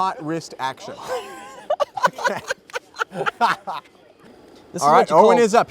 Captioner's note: laughter